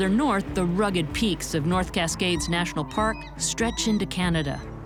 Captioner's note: birds calling